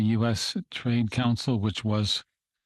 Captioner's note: speaking in French